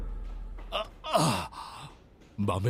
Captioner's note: Groans